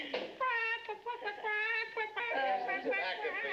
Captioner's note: imitates chicken clucking